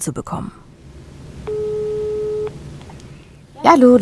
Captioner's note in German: Telefon klingelt